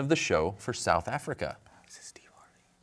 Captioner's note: whispering